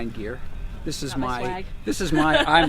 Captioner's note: laughs